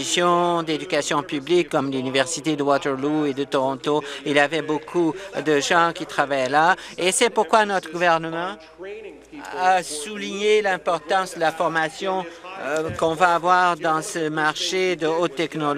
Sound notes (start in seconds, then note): none